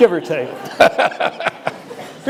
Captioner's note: laughter